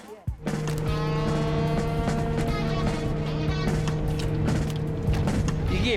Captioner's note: sound of the boat engine